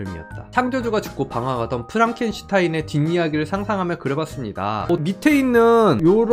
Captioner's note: voiceover